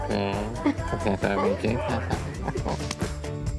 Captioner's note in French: rires